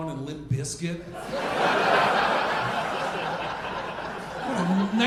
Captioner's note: audience laughing